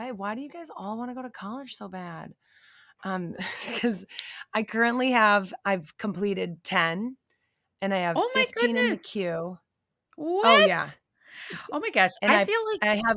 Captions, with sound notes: "Why do you guys all wanna go to college so bad?" [chuckling] Because I currently have, I've completed 10, and I have 15 in the queue. - Oh, my goodness. What? - Oh, yeah. - Oh, my gosh, I feel like--